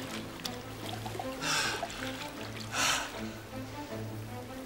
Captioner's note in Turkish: Nefes alıp veriyor